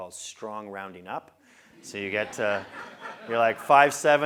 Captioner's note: laugh